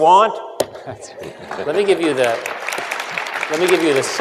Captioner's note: applause